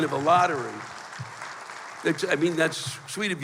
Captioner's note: applause